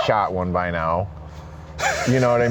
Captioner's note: laughs